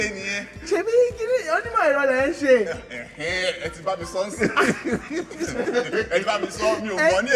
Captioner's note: laughs